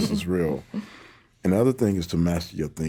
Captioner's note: all laughing